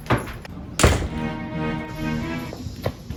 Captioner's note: door opens and shuts